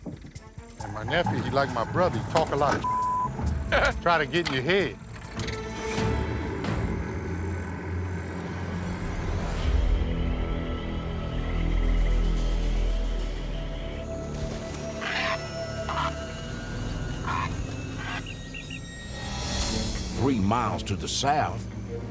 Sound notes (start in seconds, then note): 3.6 laughs